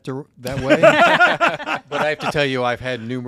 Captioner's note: panelists Laugh